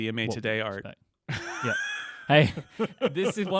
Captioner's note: laughing